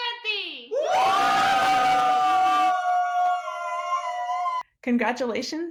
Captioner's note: cheering